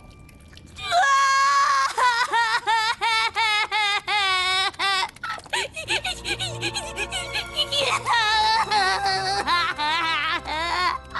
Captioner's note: sobbing